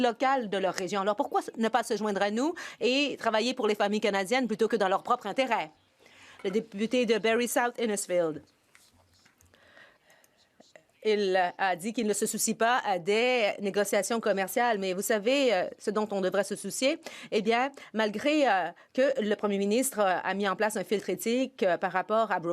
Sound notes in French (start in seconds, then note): 13.1 voix de l'interprète